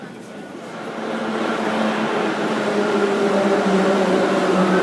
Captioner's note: arrival of train at the station